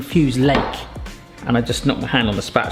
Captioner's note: spatula thumping